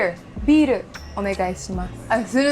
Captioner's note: speaking Japanese